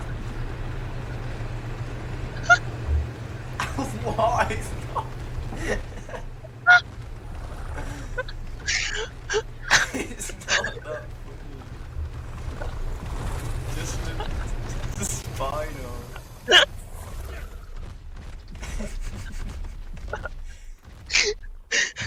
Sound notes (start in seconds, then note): 0.1 laughing; 7.4 still laughing